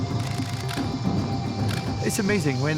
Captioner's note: camera shutter clicks